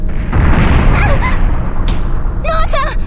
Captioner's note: panicked cry